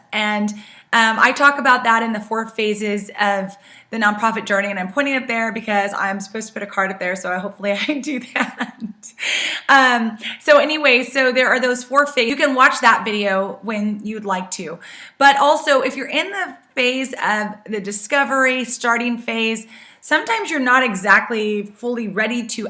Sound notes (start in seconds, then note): 8.2 laughs